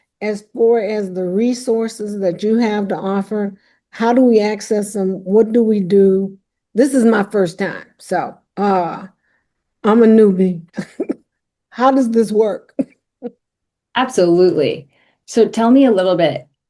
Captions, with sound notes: as for as the resources that you have to offer, how do we access them? What do we do? This is my first time, so I'm a newbie. [chuckles] How does this work? Absolutely. So tell me a little bit.